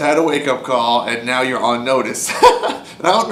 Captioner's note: laughs